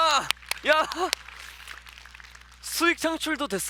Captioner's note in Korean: 박수 소리